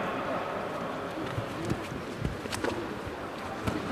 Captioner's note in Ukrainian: шум боротьби